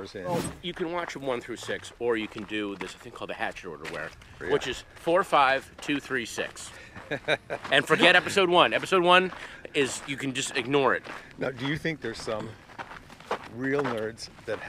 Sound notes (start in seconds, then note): 6.7 laughing